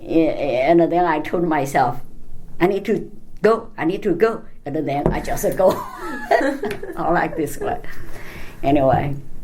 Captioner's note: all laugh